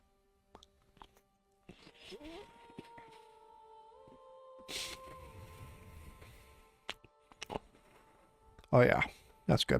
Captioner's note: gross munching